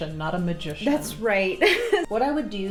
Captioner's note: laughing